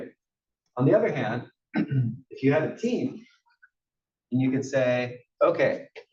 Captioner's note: cough